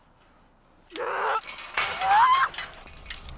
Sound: frustrated screams

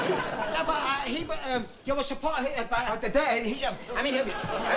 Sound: stammering

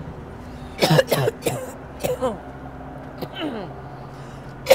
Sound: coughing

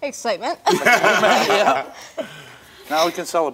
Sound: all laugh

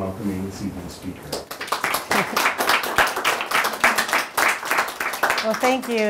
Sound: people clapping

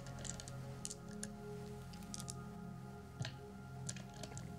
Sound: dice rattling

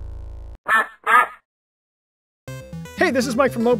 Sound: duck quacking

